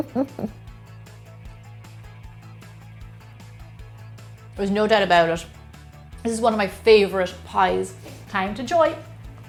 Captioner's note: laughs